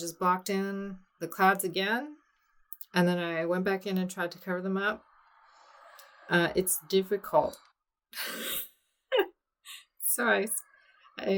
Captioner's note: laughs at self